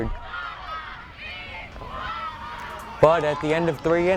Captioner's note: fans yelling